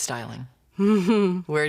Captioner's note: chuckles